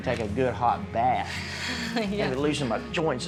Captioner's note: laughing